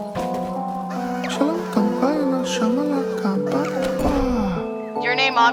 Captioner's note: a lot of follower screaming going on in the background